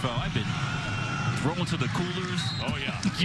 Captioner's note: laughter